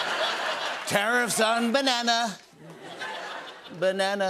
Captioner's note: As Trump